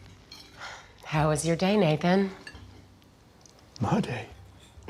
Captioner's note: sighs